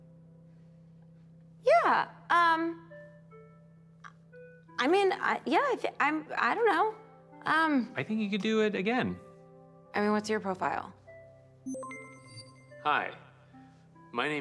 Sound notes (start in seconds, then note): 11.6 system beeps